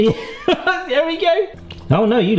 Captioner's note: laughs